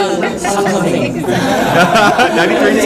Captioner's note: haha / Haha / Haha